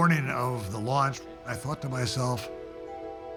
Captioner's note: none